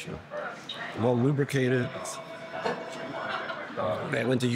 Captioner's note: telephone ringing